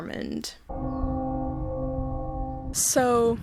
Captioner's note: bell resonates